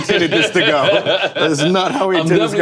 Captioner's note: Dwyane laughing